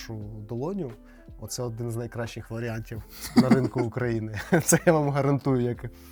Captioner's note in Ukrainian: сміх